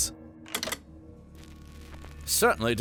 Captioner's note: clicking sound